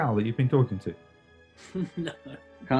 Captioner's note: laughs